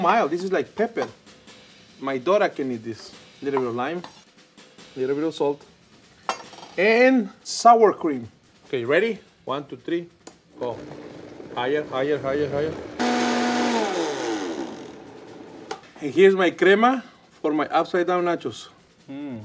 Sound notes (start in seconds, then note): 12.5 blender whirs; 14.3 soft percussive music